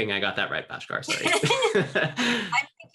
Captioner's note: laughs